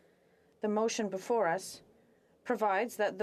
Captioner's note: speaking French